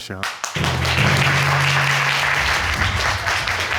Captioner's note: applauding